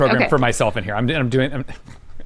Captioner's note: chuckles